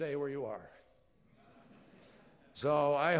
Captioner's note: laughter